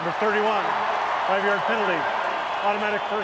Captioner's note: cheering